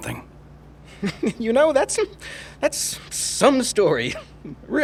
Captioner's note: chuckling